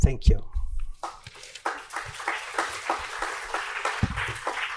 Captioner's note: applause